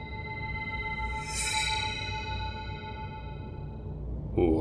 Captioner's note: atmospheric ringing; shing!